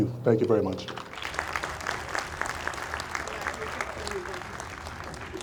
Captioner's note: audience applauds